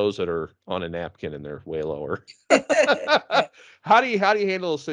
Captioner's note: laughing